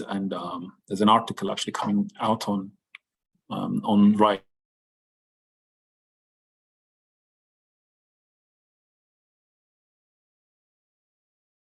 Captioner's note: long pause